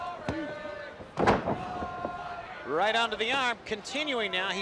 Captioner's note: crowd chatter